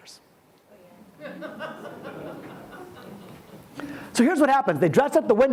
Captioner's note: audience laughs